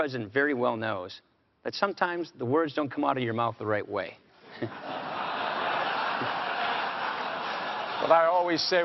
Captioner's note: laughter